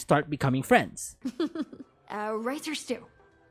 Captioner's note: giggles